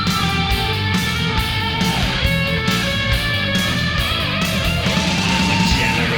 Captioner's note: Sickle squeals; rock music